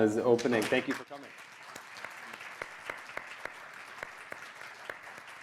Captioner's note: applause